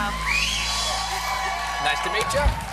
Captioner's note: cheers and applause